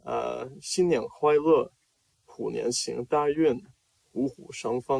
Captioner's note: speaking Chinese